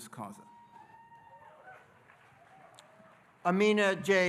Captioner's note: audience cheering and applauding